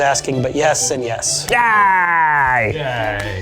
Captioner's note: in puppet voice